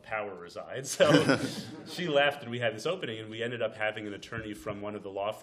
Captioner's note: laughter